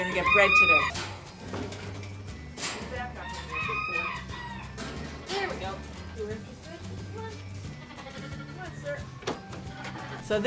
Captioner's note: various barn noises